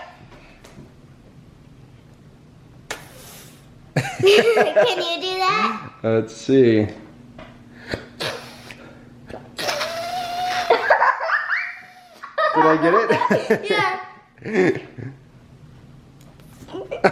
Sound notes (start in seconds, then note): 4.0 laughing; 10.2 laughing